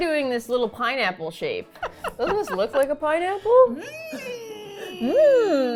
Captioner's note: laughs